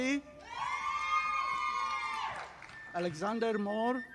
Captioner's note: audience applauding